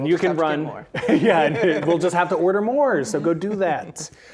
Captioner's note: laughing